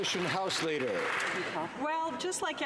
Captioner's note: some Applause